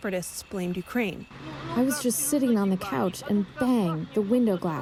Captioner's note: through translator